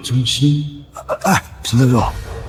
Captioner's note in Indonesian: Menghela napas